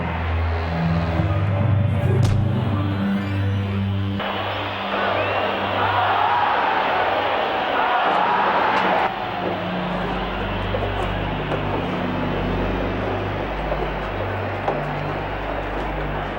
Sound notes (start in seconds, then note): 2.2 whacks; 3.0 crowd cheering